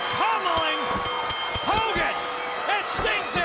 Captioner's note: bell ringing